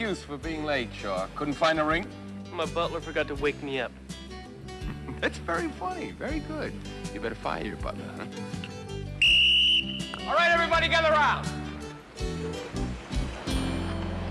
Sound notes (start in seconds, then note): 4.8 chuckles; 9.1 whistle blows